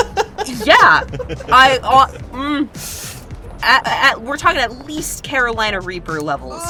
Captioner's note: laughs; groans